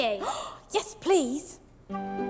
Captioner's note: gasps; pleasant music